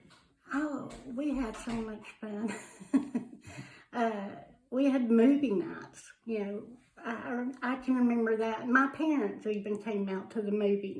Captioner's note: laughs